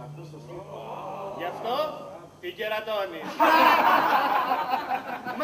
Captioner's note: γέλια